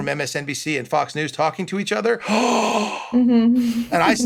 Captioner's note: sighs in disbelief